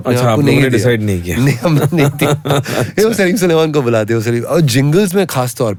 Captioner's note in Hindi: हंसी